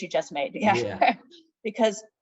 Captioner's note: laughing